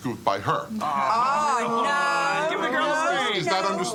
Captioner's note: crowd chattering